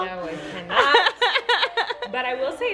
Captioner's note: laughing